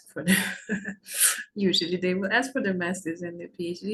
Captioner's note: chuckles